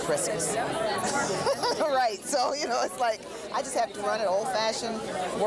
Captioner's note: laughing